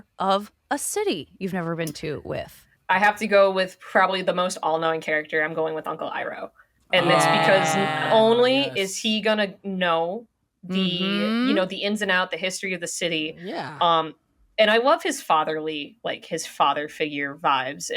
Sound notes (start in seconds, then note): 7.0 they exclaim